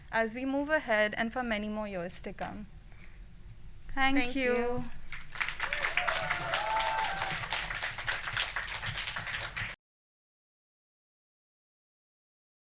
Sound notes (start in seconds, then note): 5.0 applause